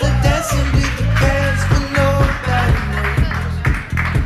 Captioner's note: upbeat music; crowd cheering